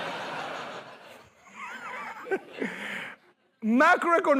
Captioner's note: laughter